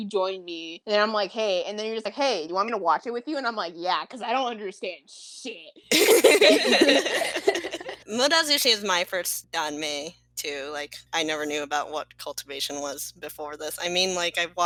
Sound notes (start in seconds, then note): 5.9 laughter